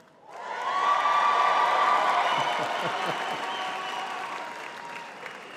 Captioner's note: audience cheering and clapping